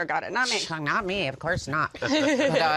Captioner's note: laughs